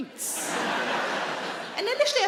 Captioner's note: audience laughing